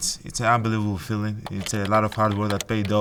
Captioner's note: keyboard clicking